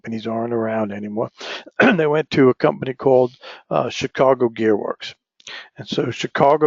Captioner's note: cough